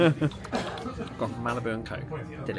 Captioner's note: laughs